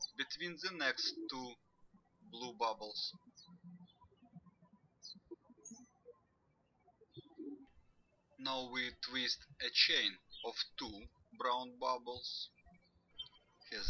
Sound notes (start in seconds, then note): 3.8 birds chirping